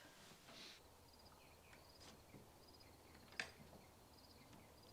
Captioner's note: crickets chirp